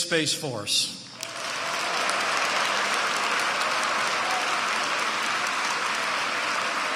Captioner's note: applause